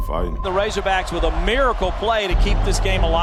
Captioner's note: voiceover